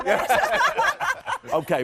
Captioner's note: laughing